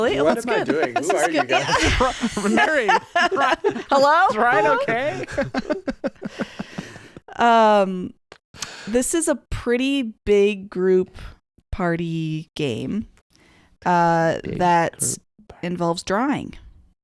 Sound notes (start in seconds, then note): 5.5 laughing